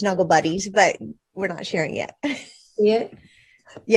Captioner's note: laughs